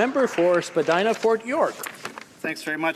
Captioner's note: some applause